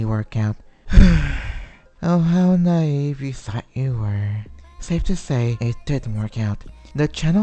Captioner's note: sigh